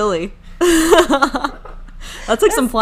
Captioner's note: laughing